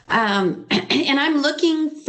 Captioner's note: clears throat